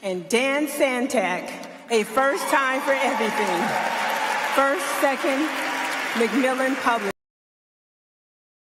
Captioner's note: applause